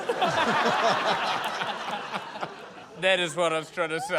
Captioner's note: laughter